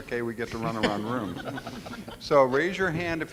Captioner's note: audience laughs